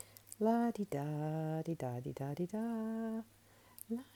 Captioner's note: humming